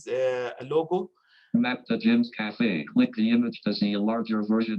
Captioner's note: automated Voice